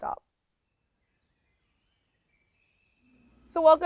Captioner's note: birds chirping